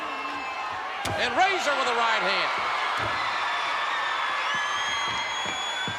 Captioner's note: spectators cheering